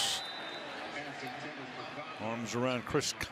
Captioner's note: pa announcement